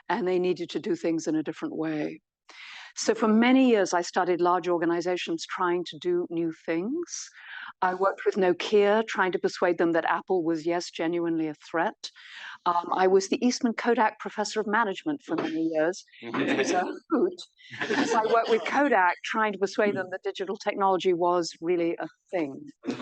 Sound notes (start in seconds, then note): 17.7 audience laughs